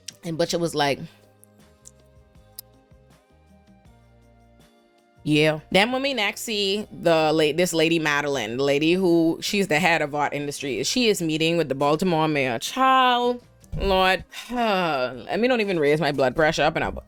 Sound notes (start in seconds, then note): 15.1 sighs